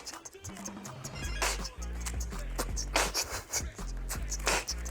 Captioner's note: hands moving fast / mouth is beatboxing